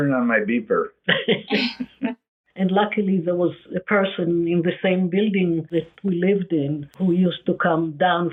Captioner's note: laughs